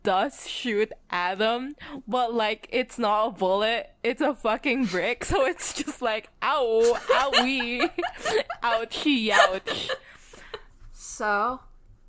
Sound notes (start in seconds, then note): 6.8 laughing